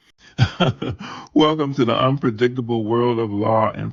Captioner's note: laughing